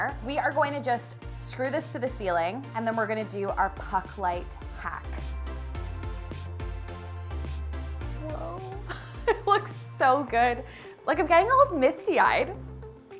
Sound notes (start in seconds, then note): 5.6 upbeat music; 9.4 laughing